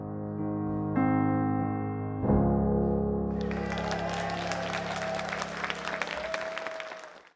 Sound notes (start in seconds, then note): 0.1 gentle music; 3.4 all applauding